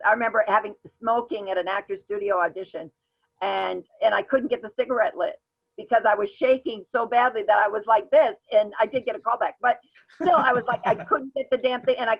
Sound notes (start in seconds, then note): 10.2 laughs